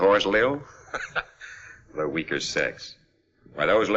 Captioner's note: chuckles